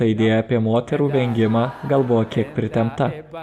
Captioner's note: laughter